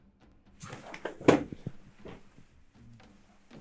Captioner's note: metal clanking